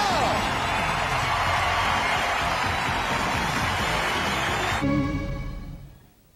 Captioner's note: audience applauding and cheering